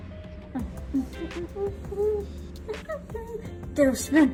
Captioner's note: hums